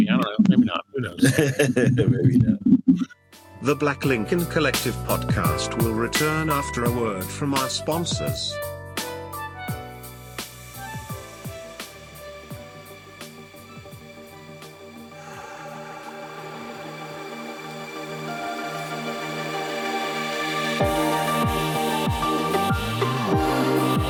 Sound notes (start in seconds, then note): 1.6 laughs; 8.8 upbeat music